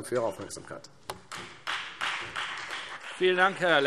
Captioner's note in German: Beifall Freie Demokraten